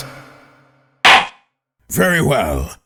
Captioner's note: gavel slams!